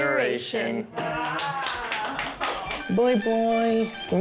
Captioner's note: clapping